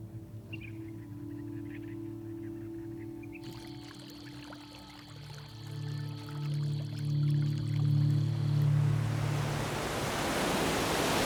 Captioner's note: birds chirping